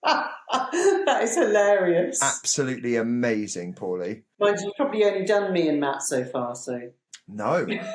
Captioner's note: laughs